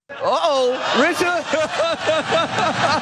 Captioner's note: laugh